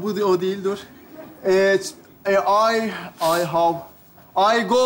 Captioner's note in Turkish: İngilizce konuşmaya çalışır